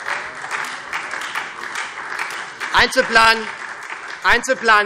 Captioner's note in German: Beifall SPD und Freie Demokraten